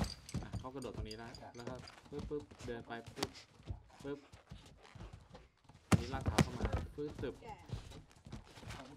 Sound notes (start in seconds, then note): 1.2 speaks in a foreign language